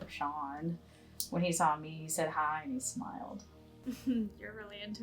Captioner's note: voice on phone